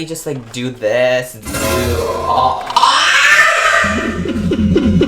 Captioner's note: screaming